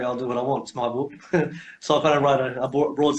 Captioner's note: laughs